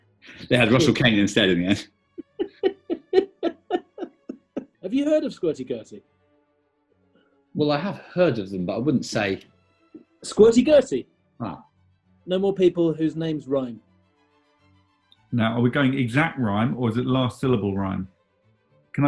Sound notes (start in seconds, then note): 2.2 giggling